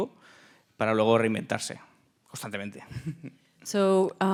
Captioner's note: speaking in Spanish